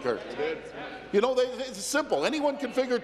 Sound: none

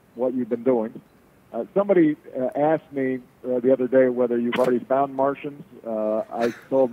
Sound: laughter

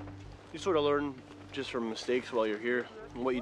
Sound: voiceover

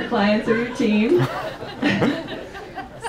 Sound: audience laughs

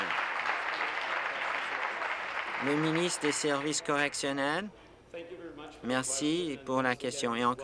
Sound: applause

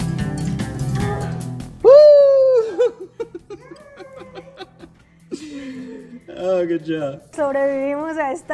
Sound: laughter

